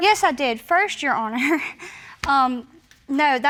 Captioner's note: snickers